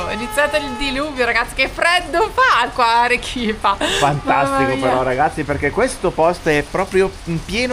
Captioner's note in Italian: risate